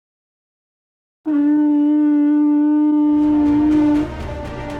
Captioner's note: blows horn normally